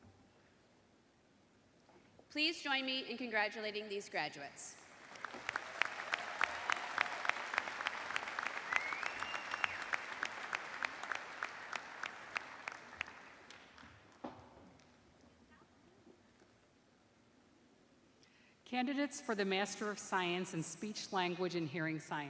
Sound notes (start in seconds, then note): 1.2 cheers and applause